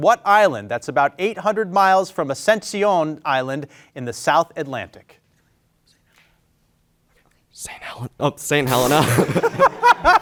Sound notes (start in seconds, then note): 6.0 group whispering